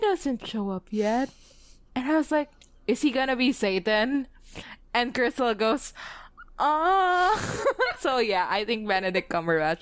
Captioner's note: laughs